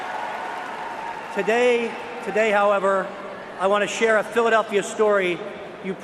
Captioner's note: cheers and applause